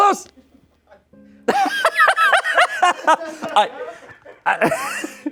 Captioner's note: laughs